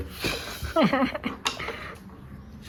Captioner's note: laughs